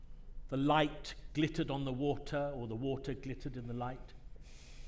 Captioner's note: none